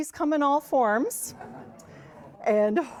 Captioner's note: audience laughs and exclaims